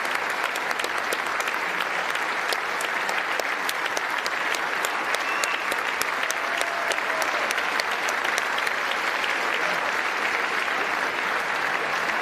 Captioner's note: applause